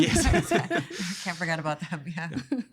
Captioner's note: all laughing